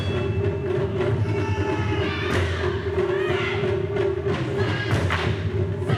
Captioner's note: instrumentalists shouting